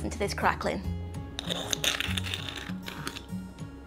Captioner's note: crunchy sounds